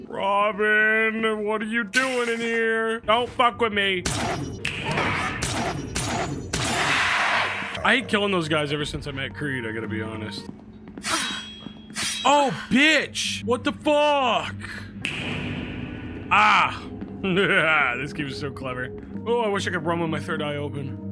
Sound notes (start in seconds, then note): 4.0 gun firing; 11.9 metal slicing; 16.7 laughs